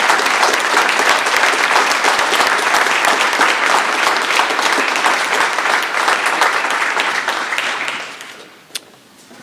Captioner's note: applause